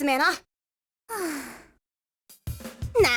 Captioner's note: sigh